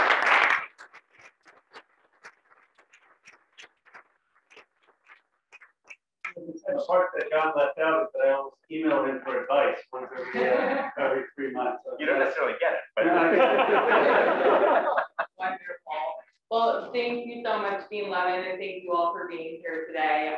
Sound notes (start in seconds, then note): 0.0 applause; 8.8 laugh